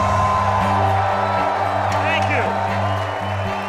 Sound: cheering

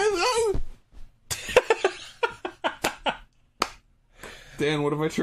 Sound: laughing

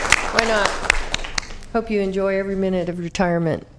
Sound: applause

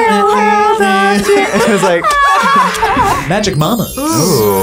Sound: group laughs

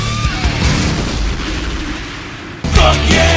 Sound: explosion

